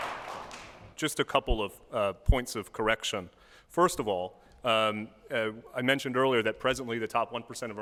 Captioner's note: applause